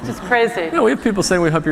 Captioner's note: laughter